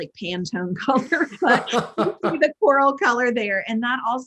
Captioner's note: everyone laughing